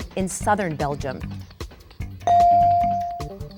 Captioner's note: bell dinging